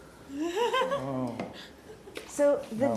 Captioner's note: laughs